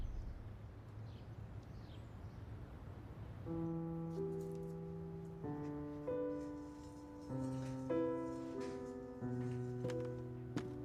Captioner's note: birds chirping in distance